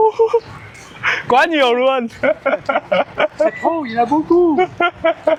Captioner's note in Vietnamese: tiếng cười